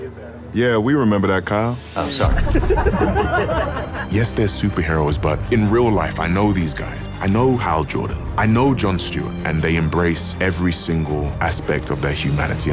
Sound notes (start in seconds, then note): 2.3 all laughing